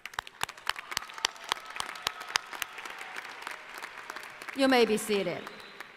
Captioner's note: applause